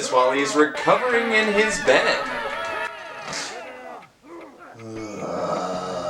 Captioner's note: groans at all the noise